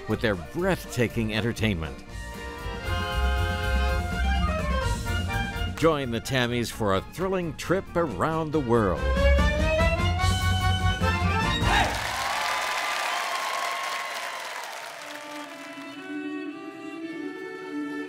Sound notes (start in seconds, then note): 3.1 upbeat folk music; 10.0 upbeat folk music; 11.6 audience cheering